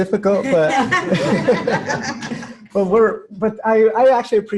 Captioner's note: laughter